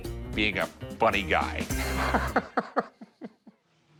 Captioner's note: laughs